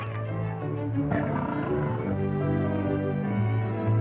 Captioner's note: growling